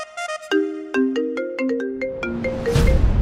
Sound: phone ringing

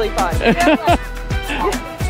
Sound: laughing

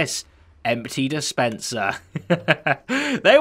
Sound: chuckles

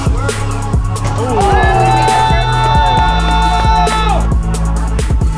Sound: upbeat electronic music; crowd cheering

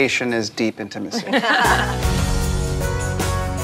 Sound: laughing

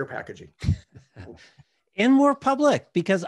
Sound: chuckles

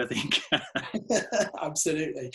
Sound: laughing

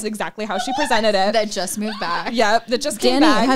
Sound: laughing

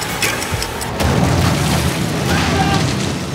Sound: explosion sound is heard

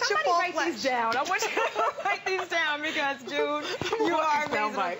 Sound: laughter

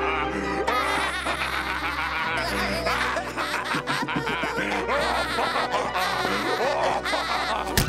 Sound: laughing

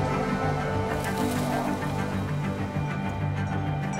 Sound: tree branch rustles

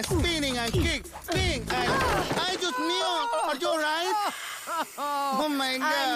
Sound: screams

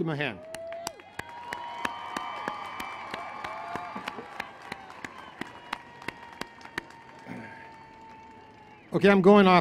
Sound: applause

